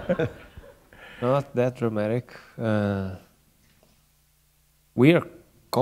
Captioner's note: laughter